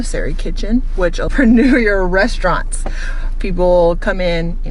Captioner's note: laughs